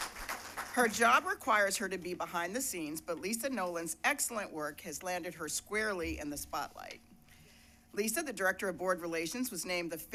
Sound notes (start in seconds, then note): 0.0 cheers and applause; 0.0 applause